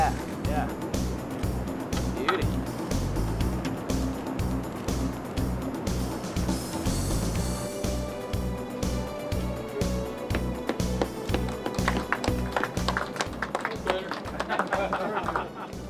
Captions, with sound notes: Yeah. Yeah. Beauty. [Applause] >>That time was better.